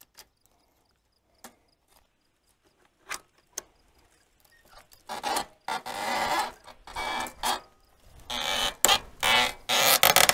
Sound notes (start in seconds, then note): 4.5 metal screeching